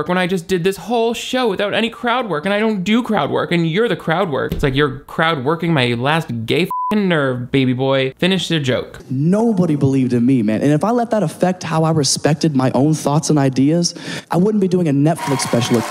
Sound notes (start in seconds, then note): 6.6 beep